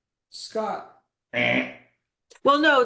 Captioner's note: wrong buzzer sound